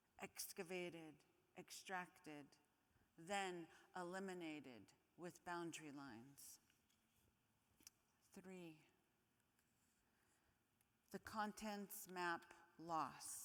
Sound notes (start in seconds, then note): none